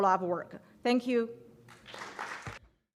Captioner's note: applause